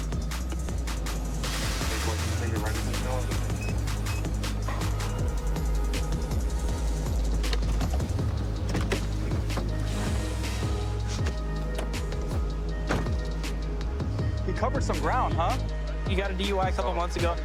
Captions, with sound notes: [indistinct dispatch speech] He covered some ground, huh? He got a DUI a couple months ago.